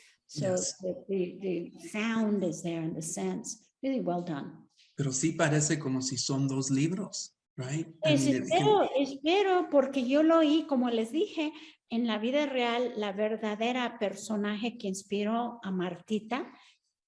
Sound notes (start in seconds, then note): 5.4 speaking Spanish; 8.1 Sandra speaking Spanish